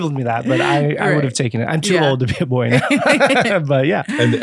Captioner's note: laughs